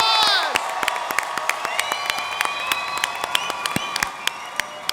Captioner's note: audience applauds